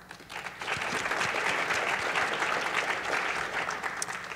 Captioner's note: applause